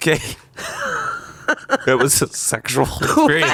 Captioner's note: laughs